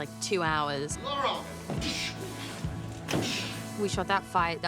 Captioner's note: yells, mimics blows landing